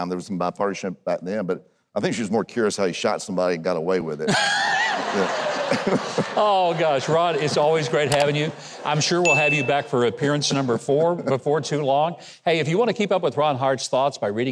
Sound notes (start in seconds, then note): 4.3 Huckabee and audience laughs